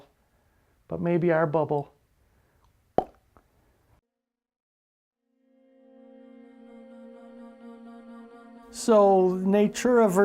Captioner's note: pop